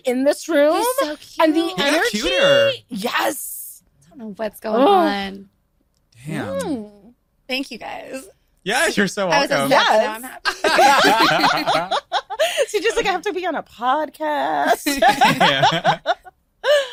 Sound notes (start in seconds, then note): 10.4 laughing